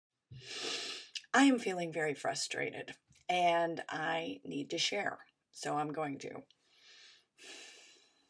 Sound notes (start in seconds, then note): 0.4 inhales deeply; 7.4 exhales loudly